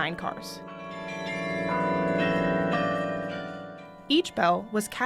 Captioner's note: bells chiming